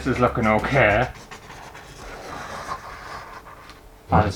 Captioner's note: pen Scraping On Canvas